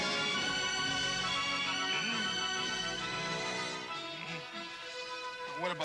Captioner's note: Qahhar grunting